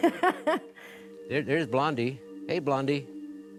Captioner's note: laughing